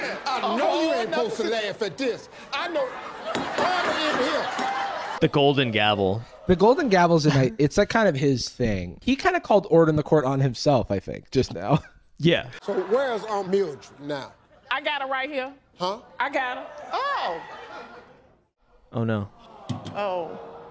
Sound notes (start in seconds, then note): 0.0 crowd laughing; 2.8 gavel banging; 4.5 crowd laughing